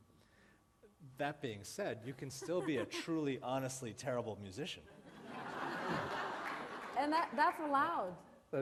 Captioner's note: laughter